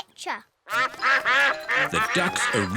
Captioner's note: quacking